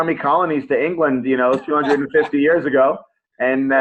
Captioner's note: laughs